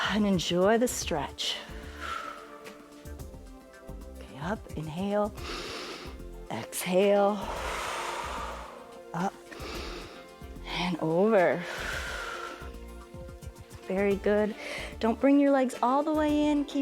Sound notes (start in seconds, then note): 5.4 inhales; 7.3 exhales; 7.4 inhales; 11.5 exhales